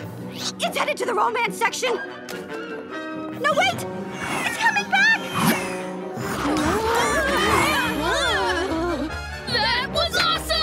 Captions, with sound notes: It's headed to the romance section! No, wait. It's coming back! [groaning] That was awesome!